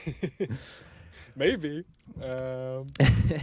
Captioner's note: laughing